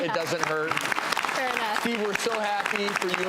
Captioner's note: audience applauds